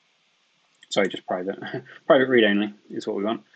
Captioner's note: chuckles